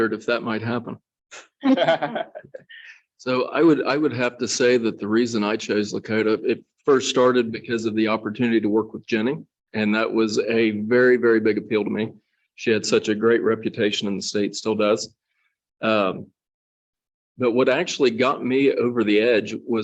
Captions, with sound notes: - I wondered if that might happen. (soft laughter) So I would have to say that the reason I chose Lakota, it first started because of the opportunity to work with Jenny. And that was a very, very big appeal to me. She had such a great reputation in the state, still does, but what actually got me over the edge